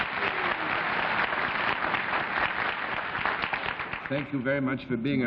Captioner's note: applause